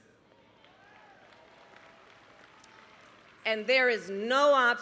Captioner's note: applause